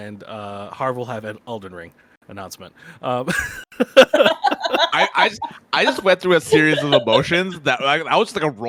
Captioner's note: laughs